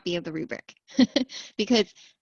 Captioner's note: laughter